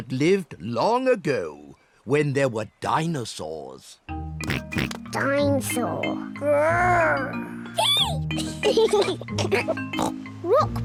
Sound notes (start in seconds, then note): 4.4 oinks; 7.0 roars; 7.7 both giggle